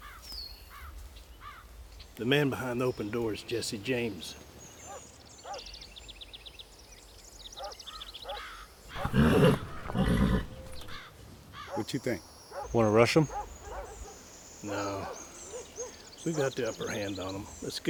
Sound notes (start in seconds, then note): 6.0 dog barking; 6.0 horse whinnying